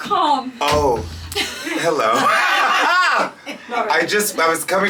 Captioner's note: laughs